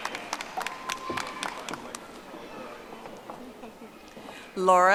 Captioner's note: audience applauding